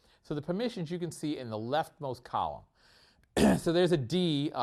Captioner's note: cough